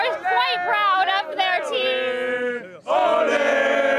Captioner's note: cheering